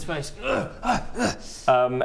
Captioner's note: grrr aggh ugh